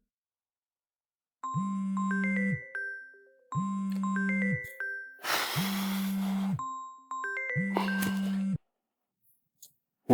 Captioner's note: phone ringing